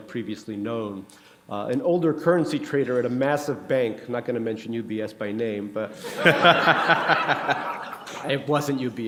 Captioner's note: laughter